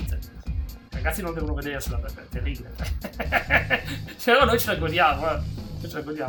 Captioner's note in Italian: risate